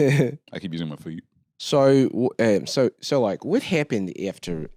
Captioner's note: Australian accent